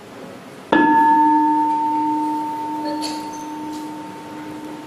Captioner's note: bell